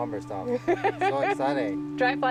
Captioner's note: laughing